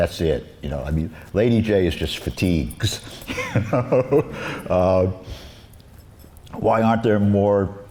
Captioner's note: laughs